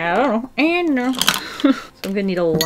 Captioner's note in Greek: Γέλια